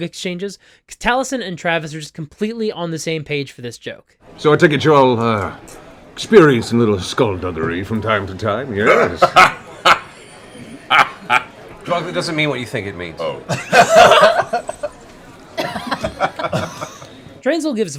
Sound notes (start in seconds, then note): 8.8 laughs; 13.4 laughter